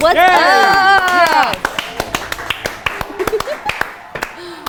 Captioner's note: loud applause